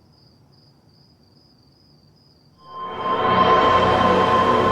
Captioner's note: fireworks burst